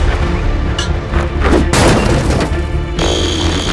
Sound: blasting; explosion; electric buzzing

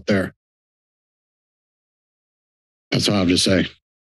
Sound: silence

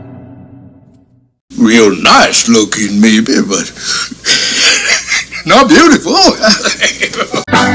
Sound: laugh

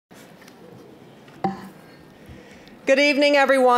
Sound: general chatter

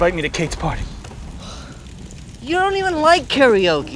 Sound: sighs

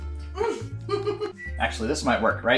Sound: laughs

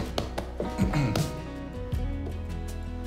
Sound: patting on chair; clears throat

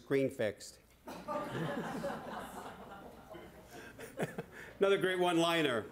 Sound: laughter

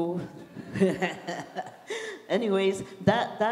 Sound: laughs

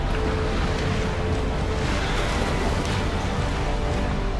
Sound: dramatic orchestral music; oars splashing

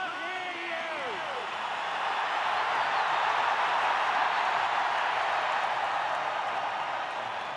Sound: louder cheering

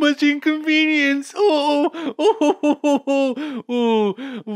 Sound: Stalin laughs

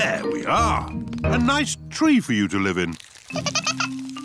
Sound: giggling

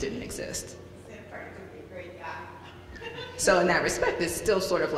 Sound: woman speaking quickly off mic

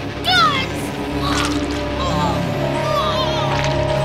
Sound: guts squish

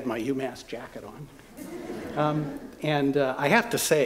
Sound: laughter

